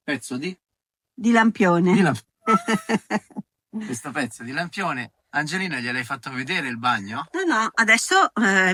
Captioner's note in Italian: risate